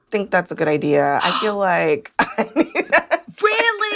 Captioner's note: laughs